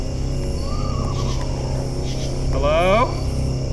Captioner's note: ghostly trilling